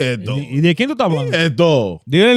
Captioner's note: speaking In Foreign Language